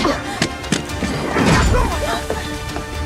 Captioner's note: Hartley grunts; Booth grunts